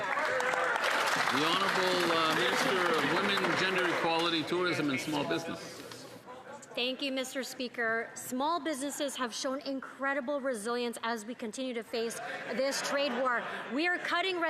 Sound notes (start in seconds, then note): 5.7 some Applause